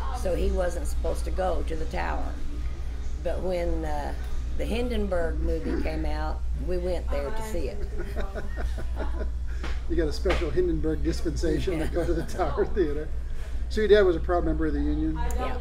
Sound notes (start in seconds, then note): 7.6 laughs